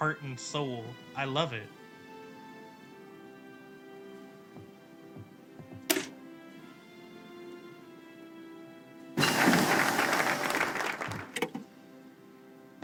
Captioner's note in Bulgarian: Аплодисменти